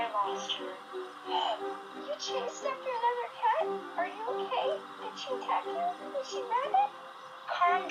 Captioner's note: gasps in shock and surprise